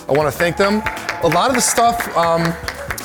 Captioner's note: applause